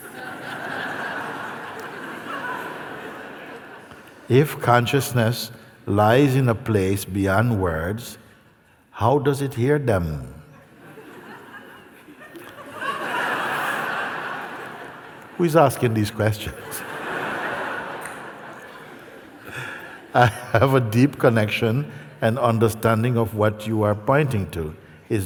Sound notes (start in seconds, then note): 0.0 laughter; 10.6 laughter; 16.4 laughter